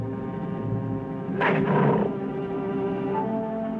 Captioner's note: cat growls